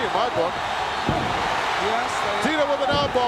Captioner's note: audience cheering